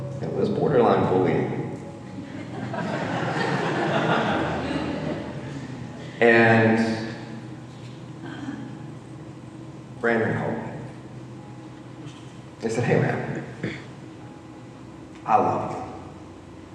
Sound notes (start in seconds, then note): 2.1 audience laughing